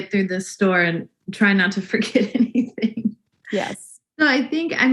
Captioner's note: laughs